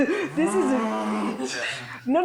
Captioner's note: mimicking whirring